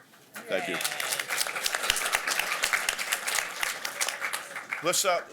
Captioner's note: applause